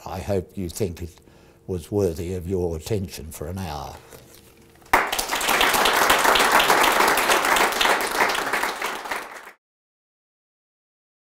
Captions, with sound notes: I hope you think it was worthy of your attention for an hour. [APPLAUSE]